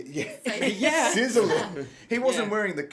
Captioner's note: laughs